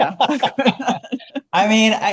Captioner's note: both laughing